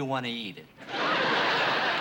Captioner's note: laughter